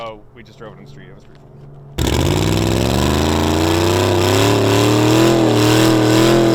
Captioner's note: engine revving